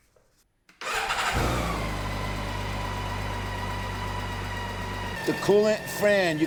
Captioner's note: engine starts